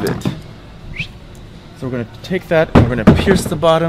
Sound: whistles

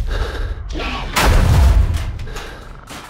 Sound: breathing heavily; objects crashing; footsteps thudding

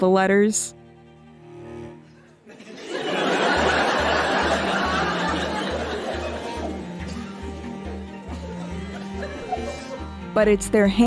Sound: laughter

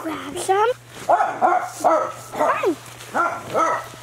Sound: dog barks

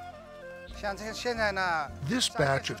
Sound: speaking Chinese

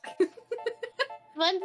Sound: laughing

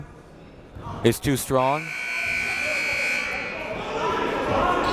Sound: buzzer goes off

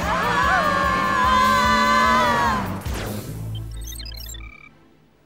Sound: engine revs; horn honking

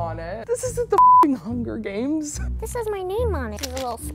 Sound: beep

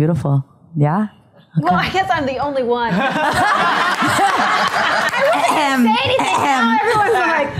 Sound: laughter

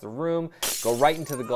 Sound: glass crackling

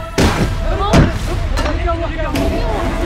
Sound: banging

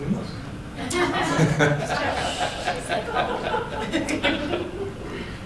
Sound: laughter

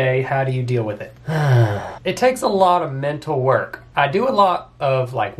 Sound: groans

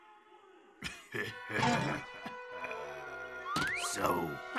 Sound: sinister laughter

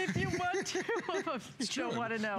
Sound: laughter

